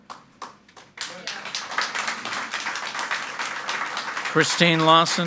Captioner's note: audience applauding